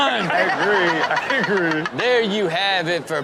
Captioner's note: everyone laughs